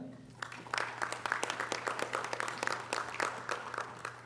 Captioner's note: audience applause